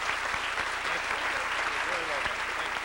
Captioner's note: applause